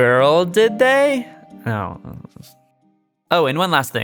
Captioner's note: self-dismissive mumbling